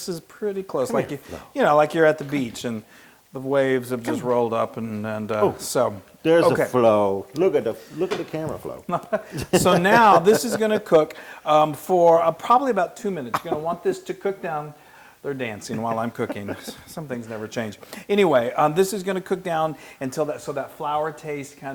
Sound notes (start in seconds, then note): 8.9 laugh